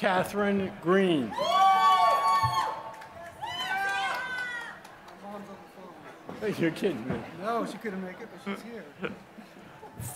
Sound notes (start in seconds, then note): 0.0 applause; 9.0 laughter